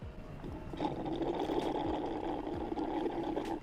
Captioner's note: gurgling